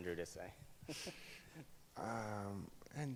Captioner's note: laughs